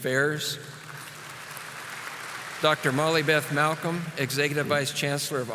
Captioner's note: audience applauding